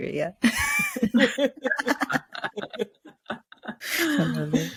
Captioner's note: laughs